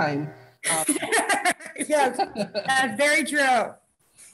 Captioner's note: laughing